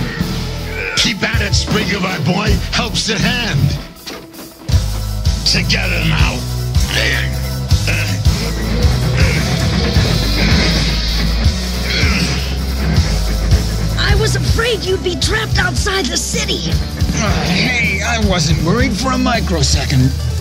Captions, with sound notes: Keep at it, Springer, my boy! Help's at hand! Together now! (grunting noises) I was afraid you'd be trapped outside the city! Hey, I wasn't worried for a microsecond!